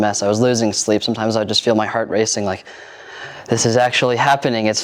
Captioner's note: gasps dramatically